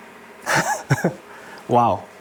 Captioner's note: chuckles